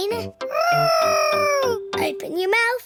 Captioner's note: imitating aeroplane